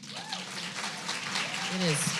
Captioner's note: applause